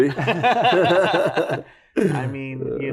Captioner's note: laughter